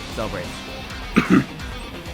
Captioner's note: clears throat